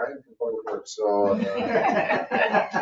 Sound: people laugh

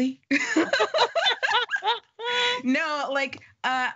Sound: laughing

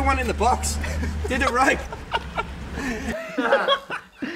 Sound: laughs

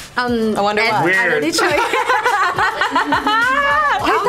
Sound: everyone laughs loudly

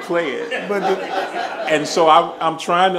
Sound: laughing

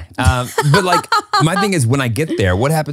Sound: laughs

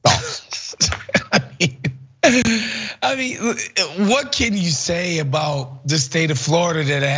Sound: laugh

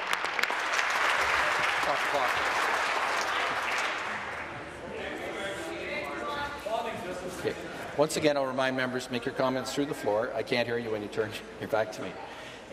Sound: applause

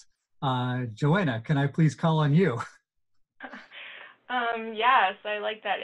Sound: chuckles softly

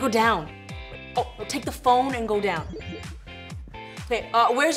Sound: electronic chime

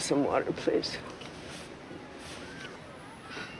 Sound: sighs

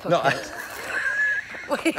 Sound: Kevin laughs

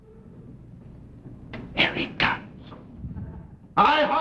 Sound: whispering

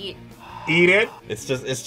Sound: sighs

